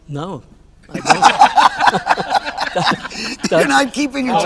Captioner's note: all laughing